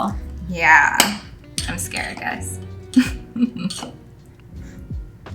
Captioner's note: laughs